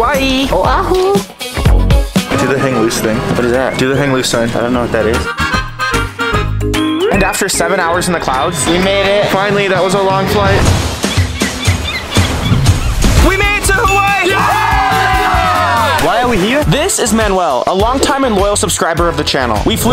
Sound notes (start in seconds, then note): 5.9 upbeat music; 10.9 upbeat music; 13.2 all cheer